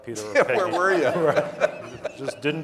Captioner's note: laughs